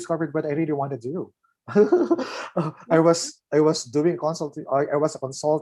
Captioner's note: laughs